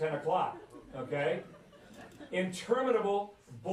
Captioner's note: laughter